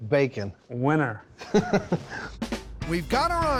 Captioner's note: laughs